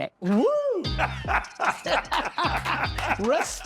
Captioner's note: laughing